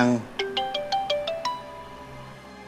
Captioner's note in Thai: เสียงไลน์